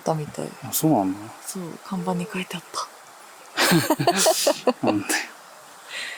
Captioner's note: laughs